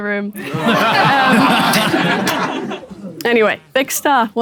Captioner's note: people in room laughing